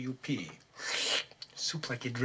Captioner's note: slurps